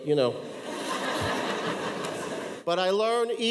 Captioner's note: audience laughs